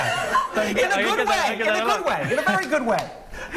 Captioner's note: laughter